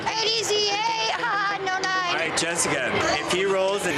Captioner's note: laughs